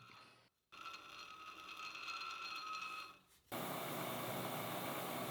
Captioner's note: face plate whirring